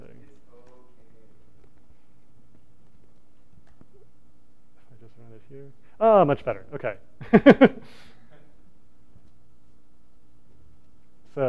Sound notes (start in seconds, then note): 7.2 laughter